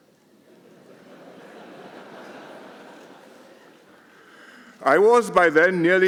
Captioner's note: laughter